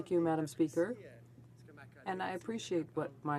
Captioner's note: speaking French